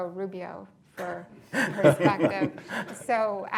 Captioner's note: laughs